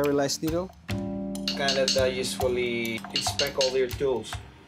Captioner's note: tapping